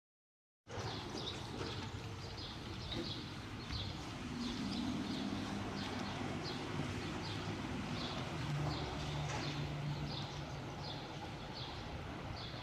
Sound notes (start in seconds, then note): 1.1 birds chirp; 1.1 traffic hums in distance